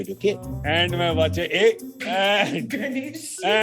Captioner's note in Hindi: हंसते हुए